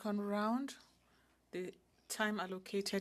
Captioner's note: speaking French